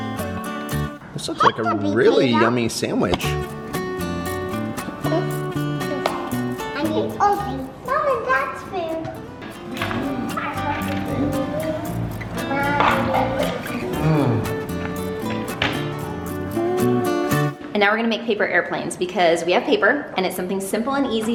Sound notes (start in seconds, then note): 3.5 upbeat guitar music; 6.8 murmurs; 9.2 upbeat guitar music; 14.9 upbeat guitar music